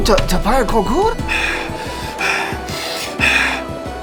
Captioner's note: panicked breathing